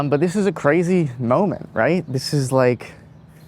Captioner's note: none